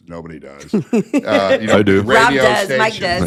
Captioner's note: chuckling